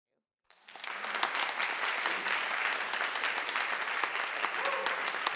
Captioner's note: audience applauding